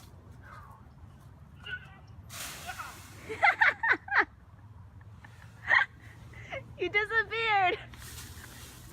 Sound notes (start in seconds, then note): 3.2 laughter